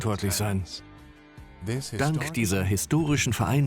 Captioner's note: voiceover